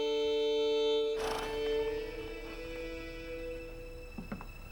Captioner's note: horse snorts